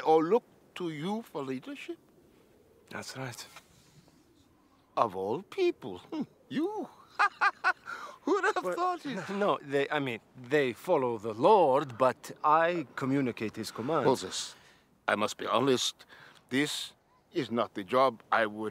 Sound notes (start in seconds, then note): 6.6 laughs